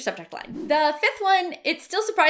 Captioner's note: swishing